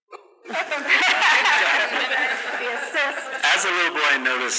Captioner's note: laughs